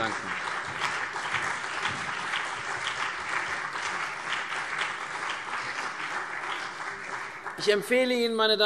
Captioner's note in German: Beifall CDU und BÜNDNIS 90/DIE GRÜNEN